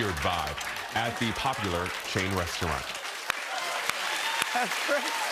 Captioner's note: cheers and applause